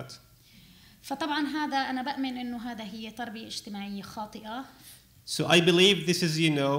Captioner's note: speaking arabic